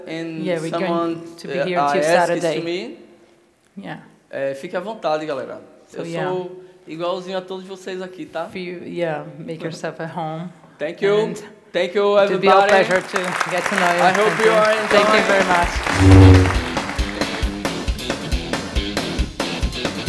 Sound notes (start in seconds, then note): 4.6 speaking Portuguese